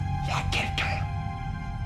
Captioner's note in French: en chuchotant